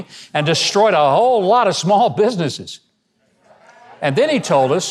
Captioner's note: audience chatting